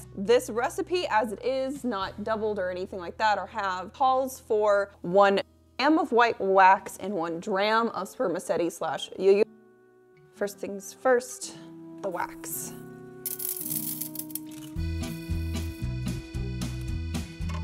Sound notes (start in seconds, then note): 13.2 wax pellets clattering; 15.0 lively music